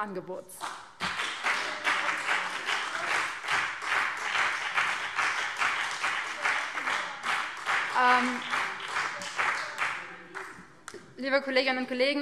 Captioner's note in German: Beifall BÜNDNIS 90/DIE GRÜNEN - Zuruf SPD